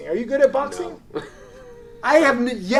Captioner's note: laughs